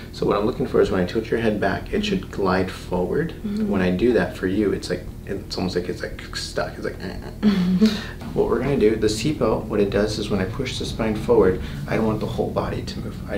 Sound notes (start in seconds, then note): 6.4 imitating creaking sound; 7.4 patient laughs